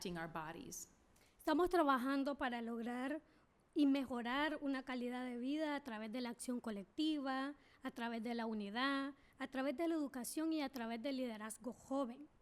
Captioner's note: speaking spanish